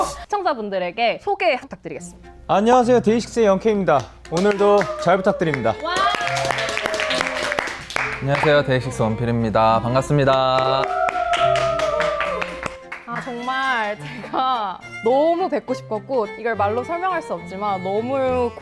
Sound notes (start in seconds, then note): 5.8 massive cheers